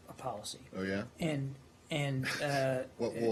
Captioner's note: laughter